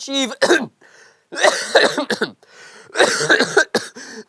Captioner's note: coughing; hacking